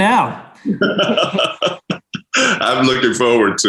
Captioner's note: laughing